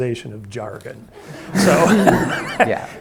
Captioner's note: audience laughing